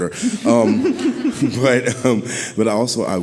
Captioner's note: audience laughing